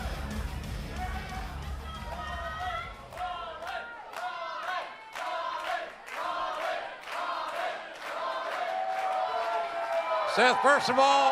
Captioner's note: crowd cheering